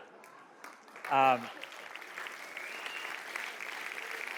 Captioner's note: audience applauding